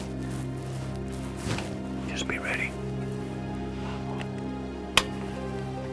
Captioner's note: whispering